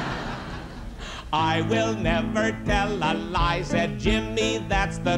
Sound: laughter

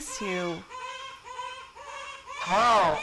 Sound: distant baby crying

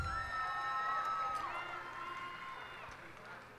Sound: cheers and applause

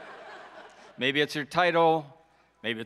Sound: audience laughs

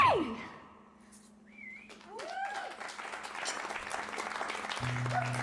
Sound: cheers and applause

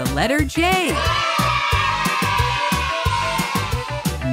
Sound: kids cheering

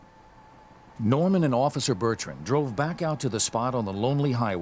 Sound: voiceover

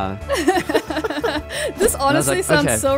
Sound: everyone laughing amusingly

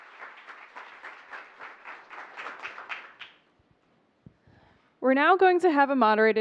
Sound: applause

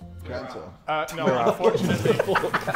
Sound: Sidemen laughing

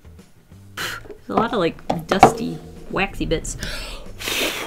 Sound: blows

